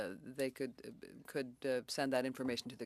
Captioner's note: speaking French